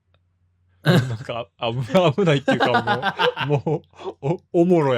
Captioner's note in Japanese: 笑い